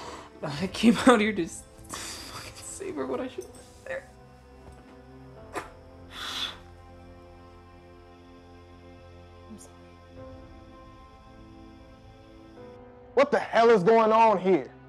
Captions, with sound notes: I came out here to fucking save her when I should've been there with her. [crying] I'm sorry. What the hell is going on here?